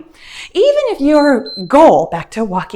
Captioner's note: timer beeps